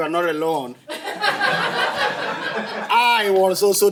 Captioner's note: laughter